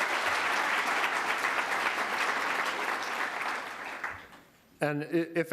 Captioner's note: cheers and applause